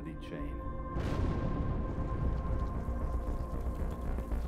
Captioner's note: explosion booms